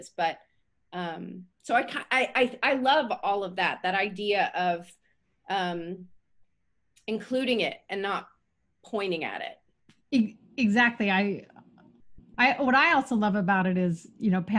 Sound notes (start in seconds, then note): none